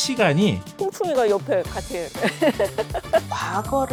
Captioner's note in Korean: 웃음